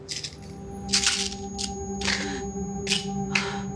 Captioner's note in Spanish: Sonido del frasco de pastillas